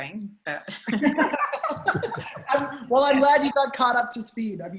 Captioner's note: all laughing